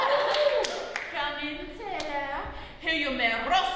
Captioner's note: laughter; french accent